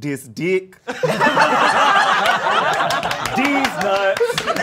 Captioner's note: all laughing